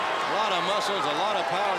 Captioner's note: crowd cheering